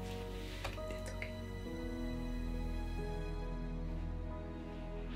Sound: whispers

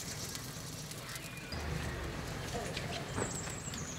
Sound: crackling

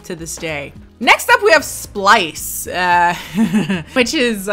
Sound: laughs

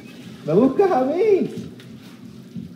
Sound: espanol

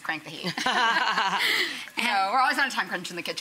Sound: everyone laughs

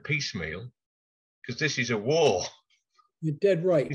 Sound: chuckles

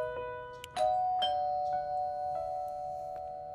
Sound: doorbell ringing

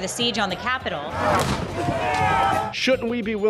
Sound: explosion, crowd roaring

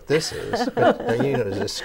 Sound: laughing

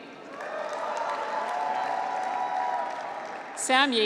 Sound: graduates cheer

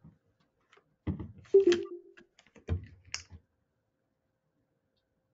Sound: computer dings

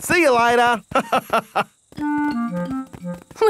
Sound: laughs

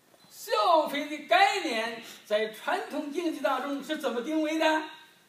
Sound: speaking foreign language

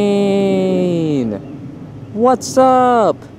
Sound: plane engine roaring in the distance

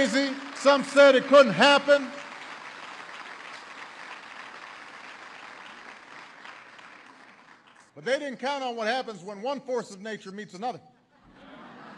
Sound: applause; laughter

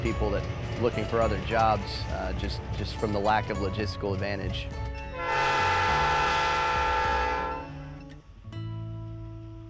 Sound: train whistle blows

